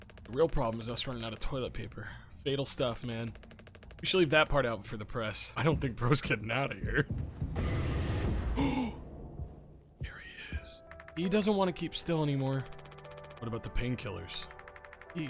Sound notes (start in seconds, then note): 8.6 Skull gasps; 10.0 whispers